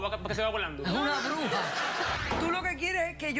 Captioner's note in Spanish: risas